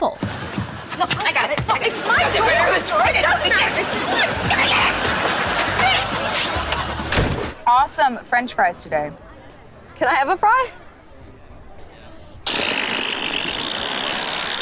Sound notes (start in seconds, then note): 1.1 arguing; 12.3 spitting